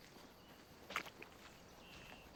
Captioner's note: steps in mud